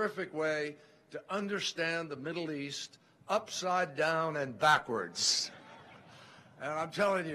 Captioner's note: laughter